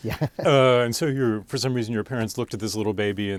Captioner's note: laughs